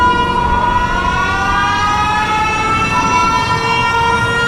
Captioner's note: airplane engines overhead